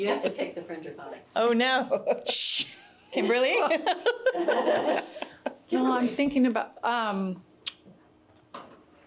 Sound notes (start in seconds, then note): 3.7 all chuckling; 3.8 chuckles